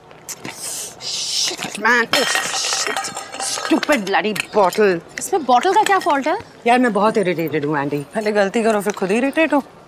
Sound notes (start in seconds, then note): 0.4 scoffs; 2.1 bottle falls